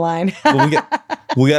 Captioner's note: laughs